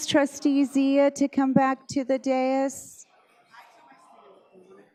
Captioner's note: crowd chattering